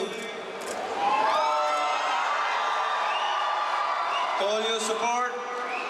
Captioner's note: crowd cheering